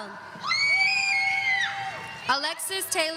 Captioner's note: audience members screaming